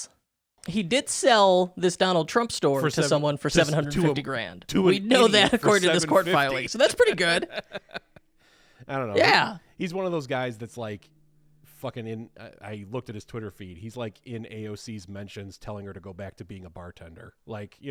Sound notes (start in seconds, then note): 7.7 laughing